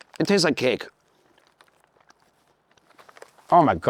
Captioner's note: crunching